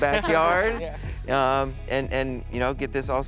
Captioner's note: laughs